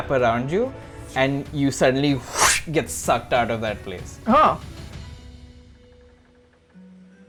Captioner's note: whoosh